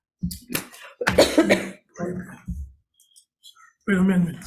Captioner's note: senator coughing